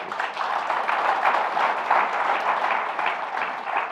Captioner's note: applause